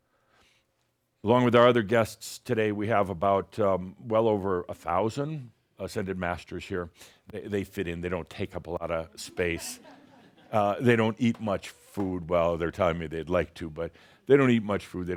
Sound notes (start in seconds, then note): 9.6 a few chuckles